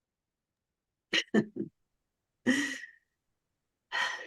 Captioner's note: chuckles